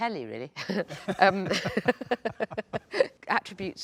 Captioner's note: both laugh